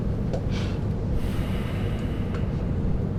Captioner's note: sighs